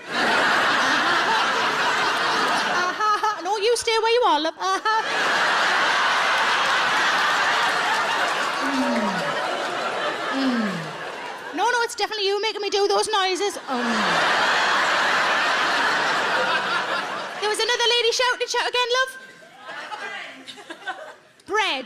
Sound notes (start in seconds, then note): 0.0 audience laughs; 4.8 audience laughs and applauds; 13.4 audience laughs